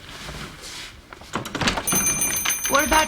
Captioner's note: bell rings